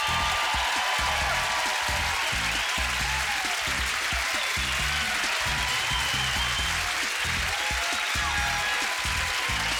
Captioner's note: cheers and applause